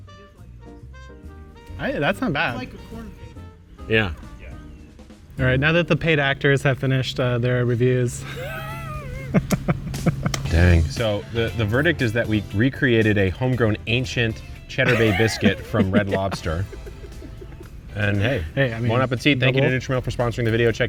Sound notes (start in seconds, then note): 8.2 laughing; 17.4 laughing